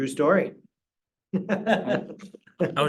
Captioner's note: laughter